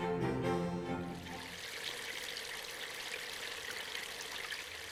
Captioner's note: water rippling